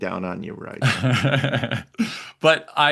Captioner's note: laughs